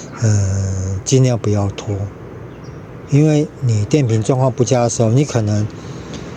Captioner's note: engine